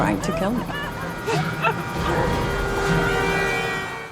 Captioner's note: horn blaring